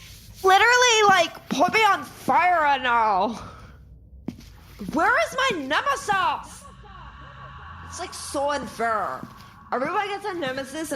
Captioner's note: echoing